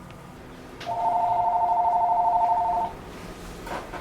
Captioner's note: phone rings